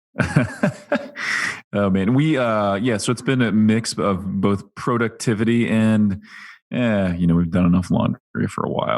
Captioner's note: laughs